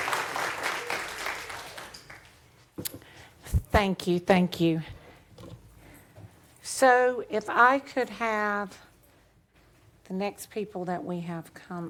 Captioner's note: applause